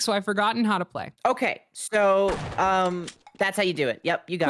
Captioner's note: shotgun fires